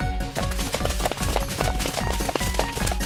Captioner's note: pant